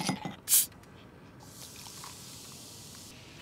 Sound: rattling ice; fizzing

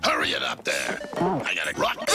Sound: bump

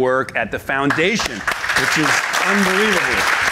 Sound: audience applauding

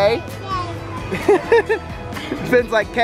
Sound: laughs

